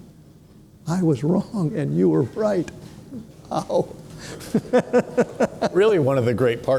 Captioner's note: chuckles